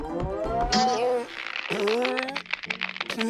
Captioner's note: reins creaking